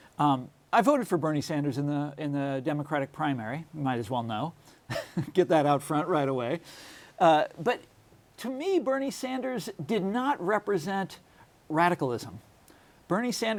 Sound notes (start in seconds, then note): 5.8 laughs